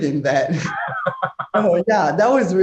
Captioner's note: laughing